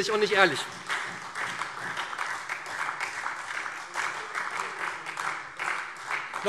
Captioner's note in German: Beifall SPD und Freie Demokraten